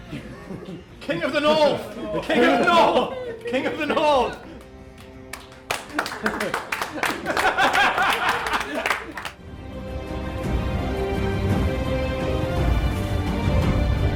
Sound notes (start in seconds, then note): 2.3 group chanting; 5.8 clapping and laughing